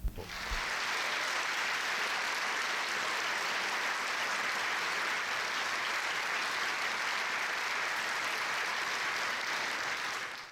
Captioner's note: audience applause